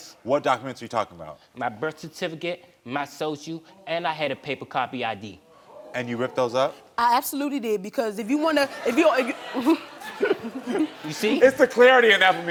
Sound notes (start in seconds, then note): 8.5 audience laughing